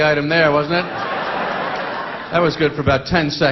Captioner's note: audience laughing